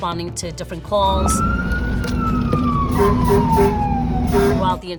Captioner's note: siren wailing